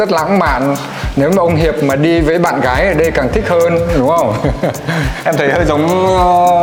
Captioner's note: laugh